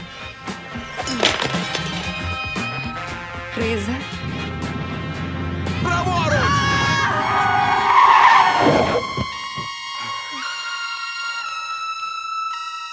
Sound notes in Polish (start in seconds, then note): 0.1 energiczna muzyka; 6.4 krzyczy; 6.6 pisk opon; 8.8 pełna napięcia muzyka